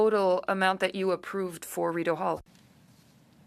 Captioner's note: speaking french